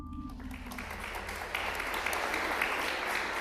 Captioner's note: applause